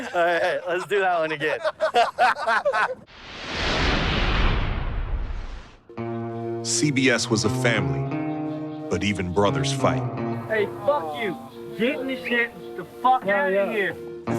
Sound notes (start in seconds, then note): 1.9 group continues laughing; 3.1 intense whooshing